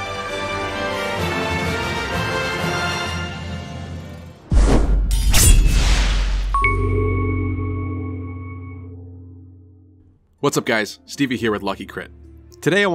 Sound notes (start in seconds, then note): 4.5 swoosh Sound; 4.6 sword Slash Sound; 6.4 intro Jingle